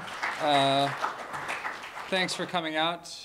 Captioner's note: applause